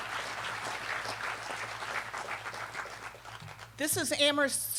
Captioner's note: applause